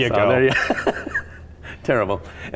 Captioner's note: laughing